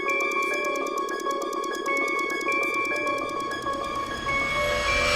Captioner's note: clicking